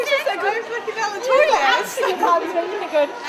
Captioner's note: laughing